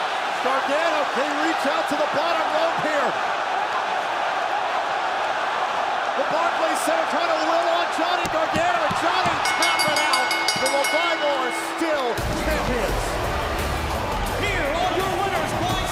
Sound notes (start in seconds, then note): 2.6 crowd cheering; 9.3 bell ringing